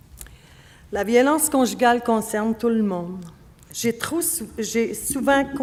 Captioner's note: speaking French